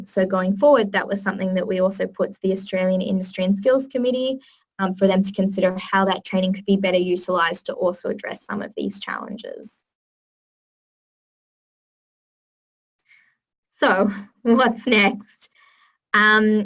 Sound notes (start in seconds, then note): 9.8 pause